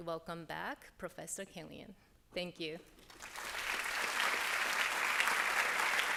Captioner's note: applause